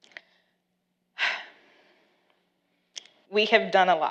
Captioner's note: sighs